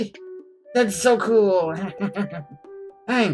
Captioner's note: laughs